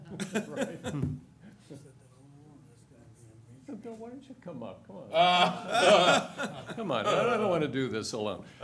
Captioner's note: laughter